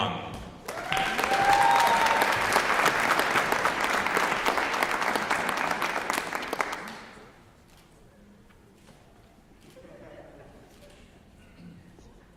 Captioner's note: applause